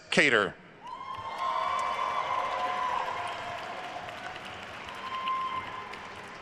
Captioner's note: attendees cheering and applauding